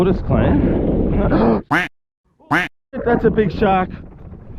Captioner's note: gasps; duck quacking